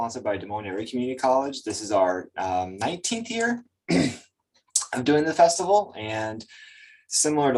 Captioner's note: clears throat